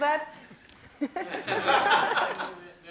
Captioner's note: laughter